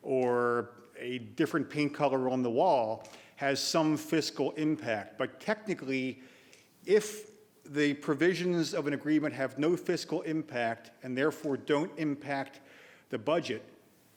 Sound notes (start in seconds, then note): none